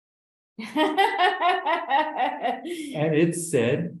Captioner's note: laughs